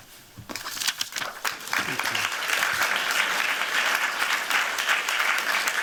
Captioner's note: applause